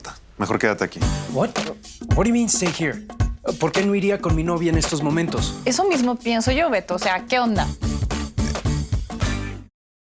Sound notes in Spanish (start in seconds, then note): 1.5 Habla inglés